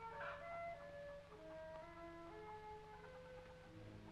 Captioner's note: ducks quacking